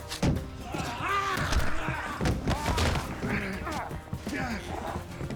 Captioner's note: yelling